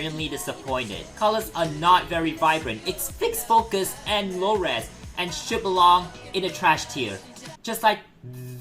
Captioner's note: i voice cracked